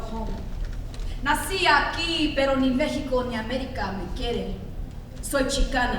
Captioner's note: speaks in foreign language